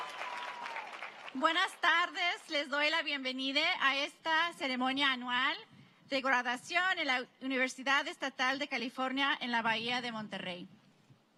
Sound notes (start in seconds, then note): 0.0 cheering; 8.3 speaking spanish